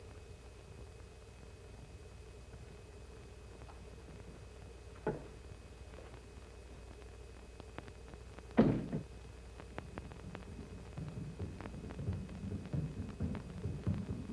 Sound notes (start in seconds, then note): 8.6 slam; 10.6 pounding of jungle drums